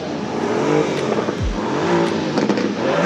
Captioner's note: engine roaring